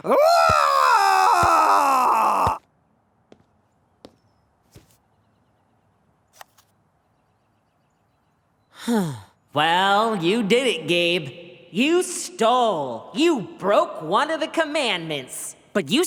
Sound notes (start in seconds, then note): 0.0 roars; 8.7 sighs